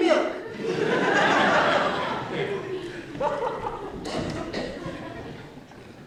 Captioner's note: laughter